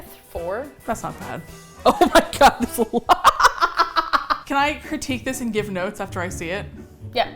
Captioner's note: laughs